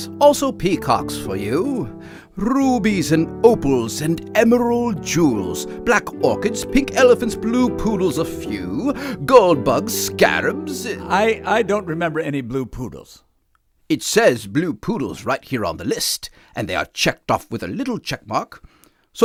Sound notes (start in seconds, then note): 13.0 music stops